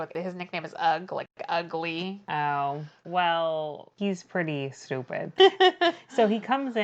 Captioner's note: laughs